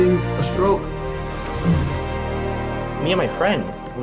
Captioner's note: burbling